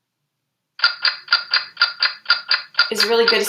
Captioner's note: timer ticking